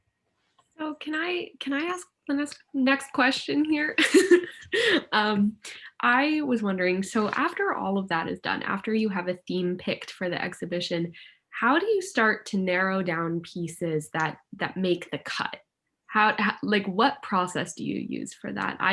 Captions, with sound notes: - So, can I ask the next question here? (laughs) I was wondering, so after all of that is done, after you have a theme picked for the exhibition, how do you start to narrow down pieces that make the cut? Like, what process do you use for that?